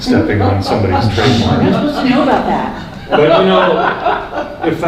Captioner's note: people laughing